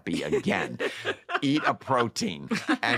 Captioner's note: laughter